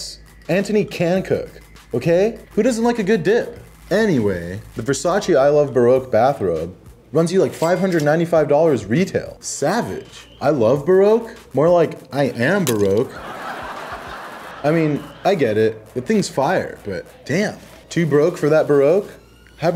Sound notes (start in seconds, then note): 13.0 laugh